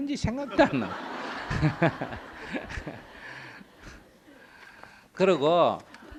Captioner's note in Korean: 청중 웃음